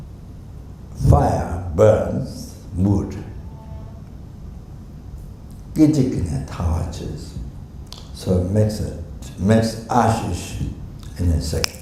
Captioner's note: snaps his fingers